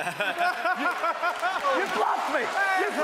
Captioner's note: laughs